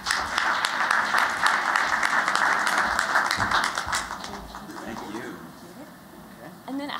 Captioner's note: �applause�